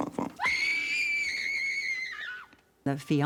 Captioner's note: screaming